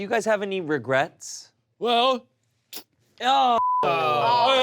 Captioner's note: spits; group groans